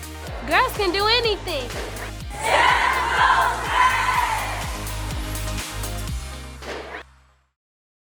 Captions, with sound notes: - Girls can do anything! - [Crowd] STEM goes red! (upbeat music)